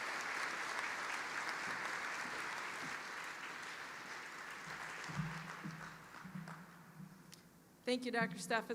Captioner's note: applause